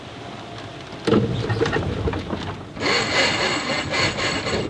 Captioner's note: rope being pulled